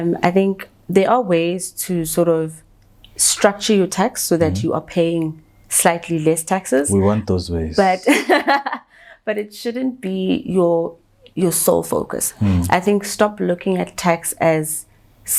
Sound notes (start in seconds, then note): 6.8 chuckles